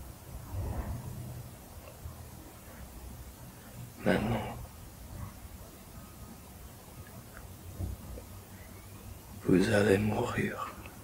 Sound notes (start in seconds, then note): 3.5 Jake continues speaking French